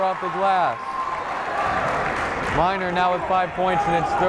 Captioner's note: cheering; clapping